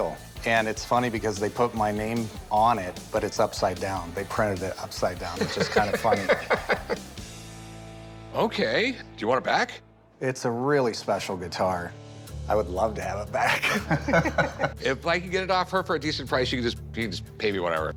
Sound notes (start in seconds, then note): 5.3 laughs; 13.4 laughter